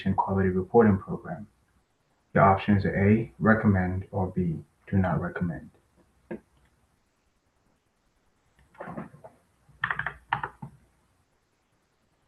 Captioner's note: pause